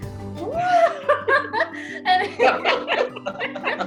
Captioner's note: all laugh